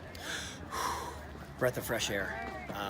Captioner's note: takes big breath